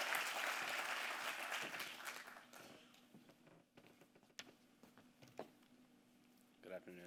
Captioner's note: applause